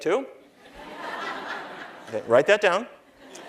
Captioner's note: laughter